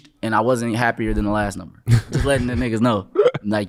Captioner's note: laughing